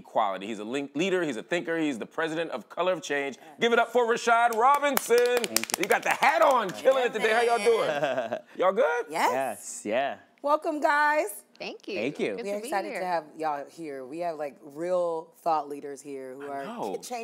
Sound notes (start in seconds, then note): 4.5 applause; 7.3 laughs